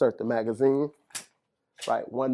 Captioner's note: magazine clicks